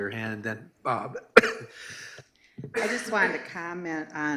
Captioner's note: coughs